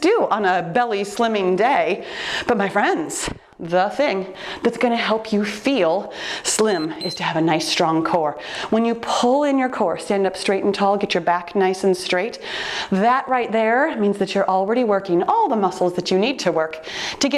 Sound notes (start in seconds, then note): 6.6 timer beeps